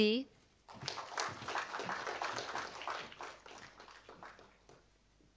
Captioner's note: audience applauding